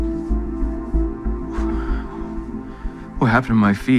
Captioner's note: exhales